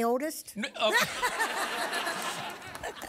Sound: laughter

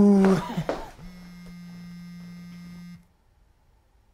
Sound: phone vibrating

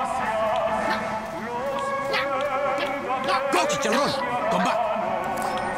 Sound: sounds of a sapient rooster refusing orders

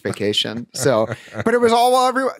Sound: chuckling

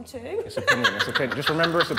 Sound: woman 2 laughing

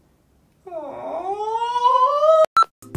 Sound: whines

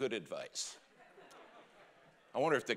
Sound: congregation laughing

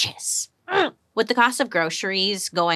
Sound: grunting

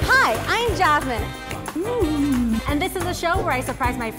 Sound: moaning

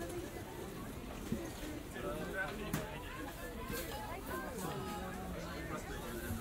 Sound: several voices, market?

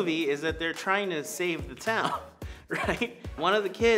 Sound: chuckles

